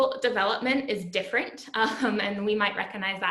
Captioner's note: laughter